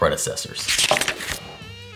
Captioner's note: page turning